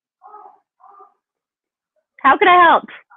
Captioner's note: bird squawking